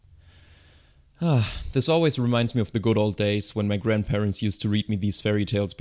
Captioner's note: sigh